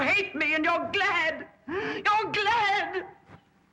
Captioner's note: tearfully